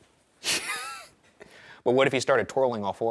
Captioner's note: Ryan chuckles